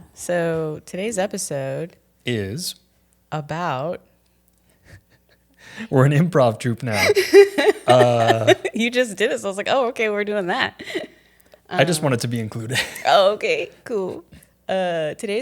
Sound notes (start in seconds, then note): 6.9 laughing